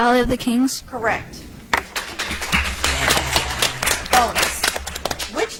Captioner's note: audience applauds